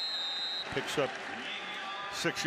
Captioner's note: whistle